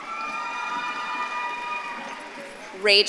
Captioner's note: audience claps and cheers